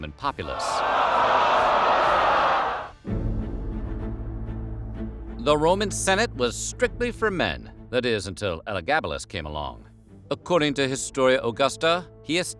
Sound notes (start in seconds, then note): 0.5 crowd groaning